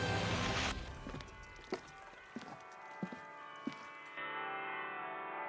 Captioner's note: church bells ringing